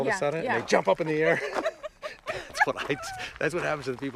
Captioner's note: Lisa laughs